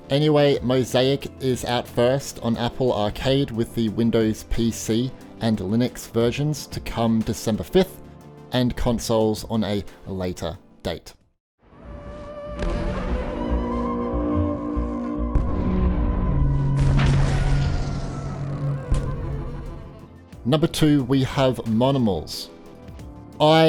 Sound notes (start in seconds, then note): 11.7 dramatic music; 12.5 low thudding